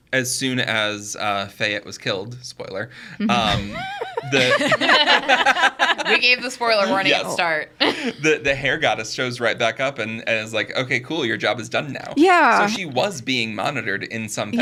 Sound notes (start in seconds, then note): 3.2 group laughing